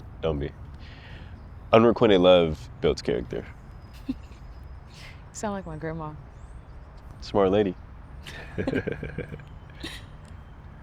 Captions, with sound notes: Don't be. Unrequited love builds character. [laughs] You sound like my grandma. Smart lady. [laughs]